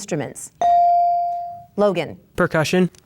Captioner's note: bell dings